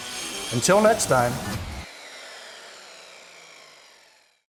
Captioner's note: saw grinding